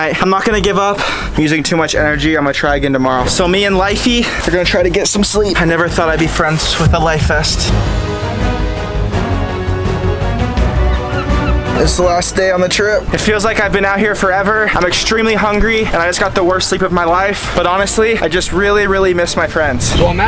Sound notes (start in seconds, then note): 7.6 rousing music; 10.6 seagulls squawking